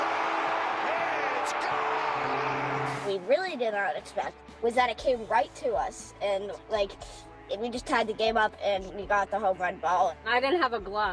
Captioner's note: applause